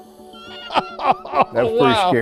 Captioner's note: laughing